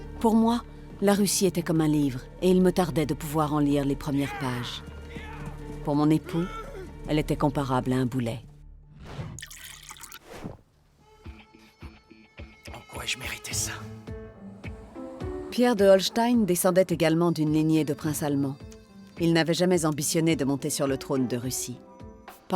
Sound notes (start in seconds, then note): 9.3 Peter sips; 9.3 wine splashes; 9.4 bottle scrapes; 10.8 upbeat music; 12.0 sighs